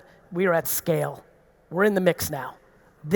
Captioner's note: none